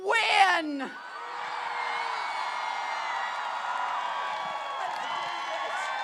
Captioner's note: applause